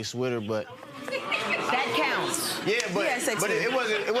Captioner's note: audience oohing